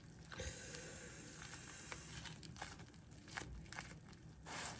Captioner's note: inhales…😂